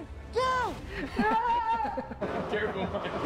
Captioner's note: yells